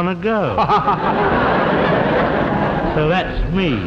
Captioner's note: audience laughs